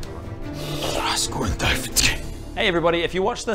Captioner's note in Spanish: murmurando